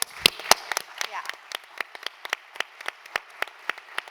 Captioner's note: applause